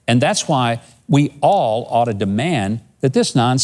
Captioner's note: none